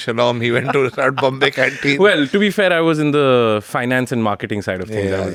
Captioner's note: laughs